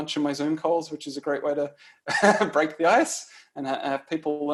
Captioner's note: laughs